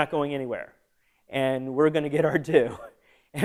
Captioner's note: laughter